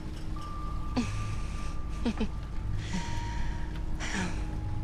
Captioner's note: laughs